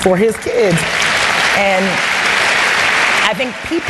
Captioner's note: applause